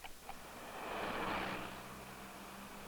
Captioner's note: vehicles circulating